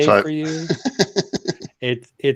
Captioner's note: laughs